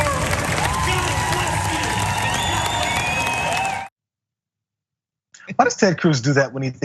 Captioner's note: applause